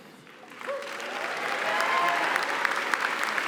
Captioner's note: applause